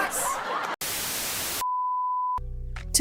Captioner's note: static